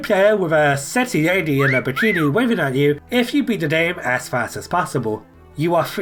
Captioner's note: woof sound